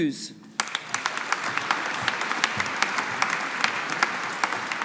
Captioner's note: audience applauding